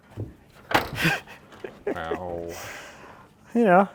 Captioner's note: laughing